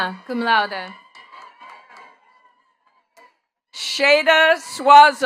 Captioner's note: attendees cheering and clapping